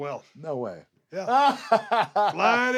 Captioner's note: laugh